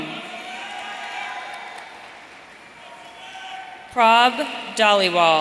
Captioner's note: audience cheering